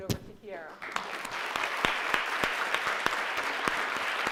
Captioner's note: crowd applauds